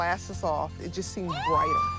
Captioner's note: delighted scream